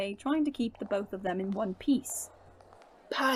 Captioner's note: footsteps start